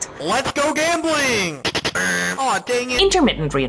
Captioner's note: slot machine buzzing